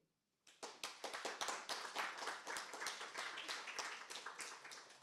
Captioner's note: applause